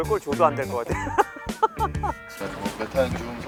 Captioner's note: innocent laugh